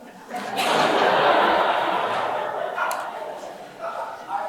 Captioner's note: audience laughing